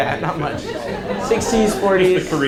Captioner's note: audience laughs